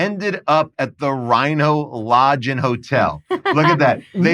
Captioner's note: chuckles